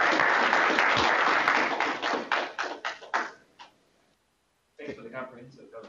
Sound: applause

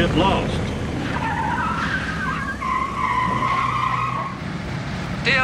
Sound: tires screech

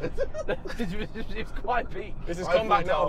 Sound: laughing

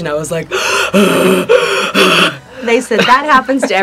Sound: gasping

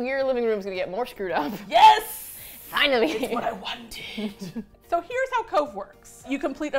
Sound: laughs

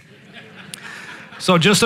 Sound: congregation laughing

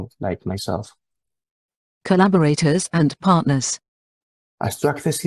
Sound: voice-over; Spanish

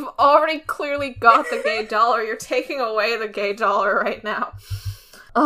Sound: laughs

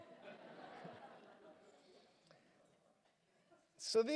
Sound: laughter

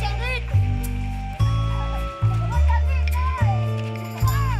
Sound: people chattering

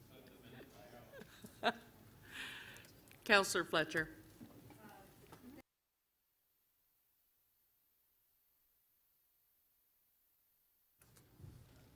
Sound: laughter

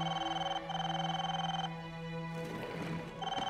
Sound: phone ringing

